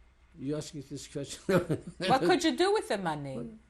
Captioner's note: laughs